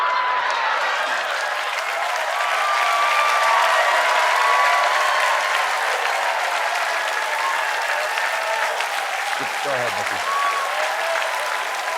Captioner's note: cheers and applause